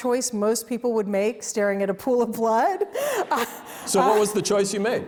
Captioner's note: audience laughs